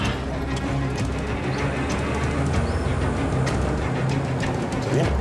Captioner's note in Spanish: ruido al irse los encapuchados